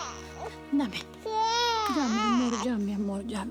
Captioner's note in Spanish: Llanto de la bebé